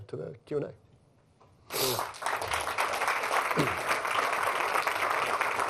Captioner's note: applause